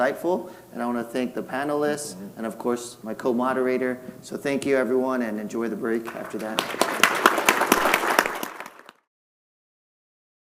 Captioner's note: applause